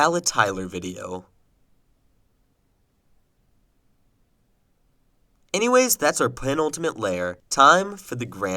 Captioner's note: uncomfortable silence